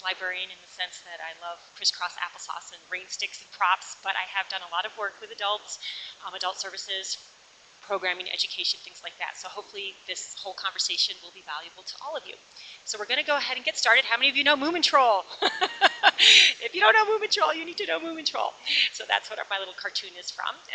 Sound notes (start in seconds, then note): 15.3 laughs